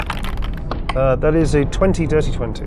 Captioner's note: dice clink